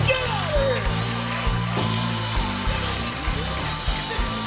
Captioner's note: cheers and applause